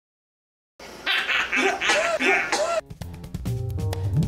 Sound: laughs; woman retches; gentle pensive music

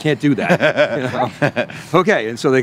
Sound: laughs

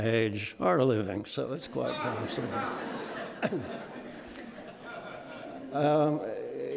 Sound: audience laughing

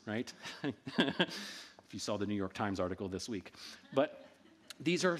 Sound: laughs

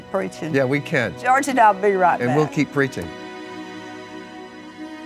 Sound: laughs

